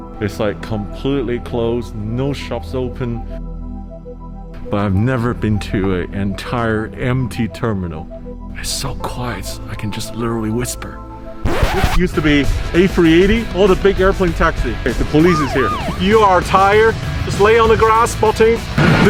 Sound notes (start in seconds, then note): 11.4 record scratching